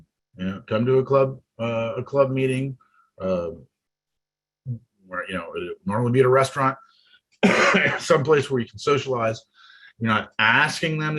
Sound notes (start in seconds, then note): 7.4 coughs